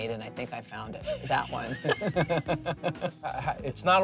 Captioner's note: both laughing